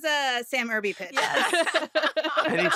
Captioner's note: laughter